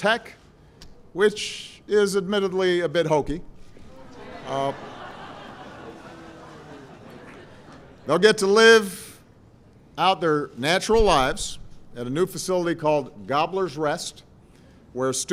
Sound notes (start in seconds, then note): 3.9 laughter